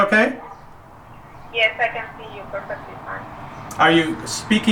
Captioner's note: voiceover